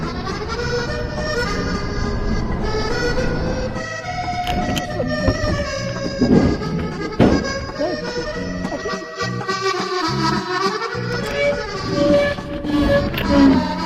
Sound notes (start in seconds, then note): 0.1 accordion music; 3.1 bing; 9.3 metal scraping